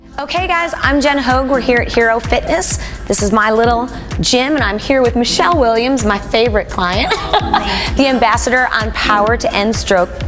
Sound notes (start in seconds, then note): 7.0 laughs